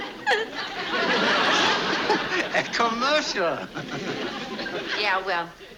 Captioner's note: chuckles